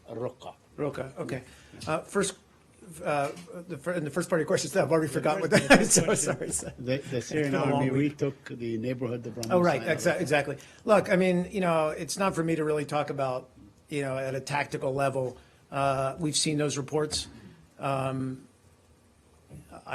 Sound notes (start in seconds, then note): 5.4 laughter